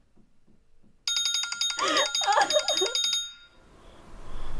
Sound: cellphone rings again

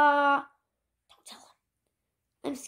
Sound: whispers

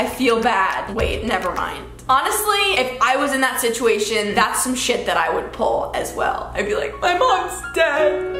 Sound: none

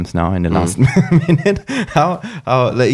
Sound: laughs

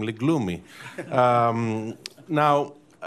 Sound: laughter

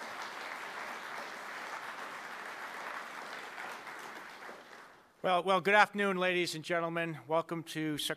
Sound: applause

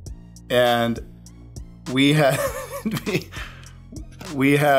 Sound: laughing

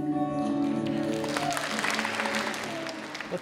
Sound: cheering and applause

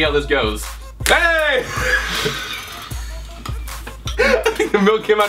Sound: laughing

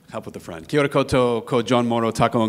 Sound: speaking in foreign language

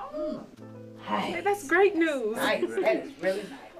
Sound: chuckling

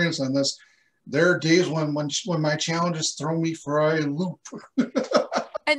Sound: laughs

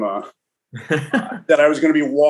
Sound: chuckles

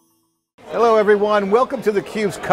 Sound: group chattering

